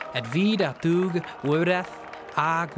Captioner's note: speaking in Welsh